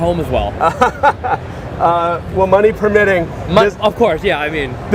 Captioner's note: laughs